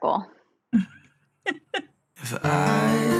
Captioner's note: women laugh